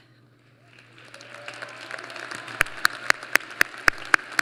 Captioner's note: applause